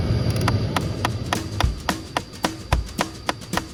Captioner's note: actuator starts clicking